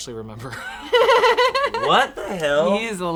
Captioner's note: laughing